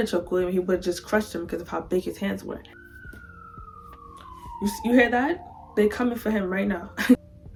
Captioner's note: police siren